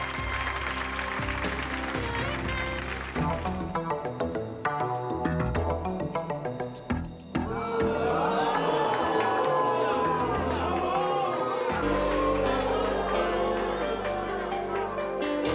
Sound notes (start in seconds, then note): 3.1 dramatic music; 7.5 audience boos; 12.0 moves to dramatic music